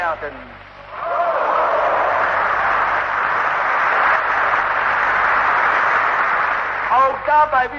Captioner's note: applause